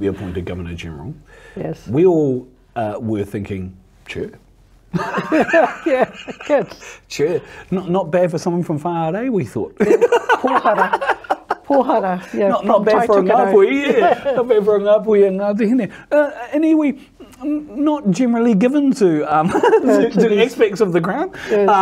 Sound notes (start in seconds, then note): 4.9 both laughing